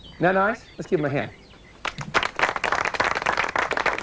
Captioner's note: applause